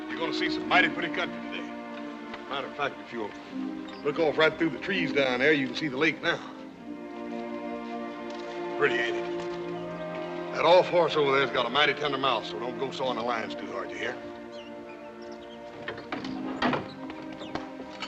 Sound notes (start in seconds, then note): none